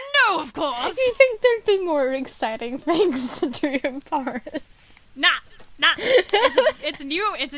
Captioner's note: giggles